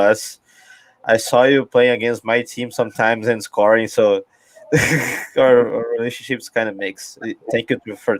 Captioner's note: risos